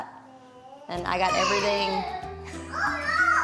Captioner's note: shouts; laughs